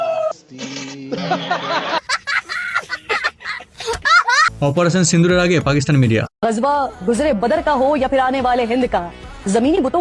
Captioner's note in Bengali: সশব্দ হাসি